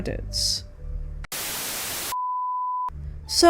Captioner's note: static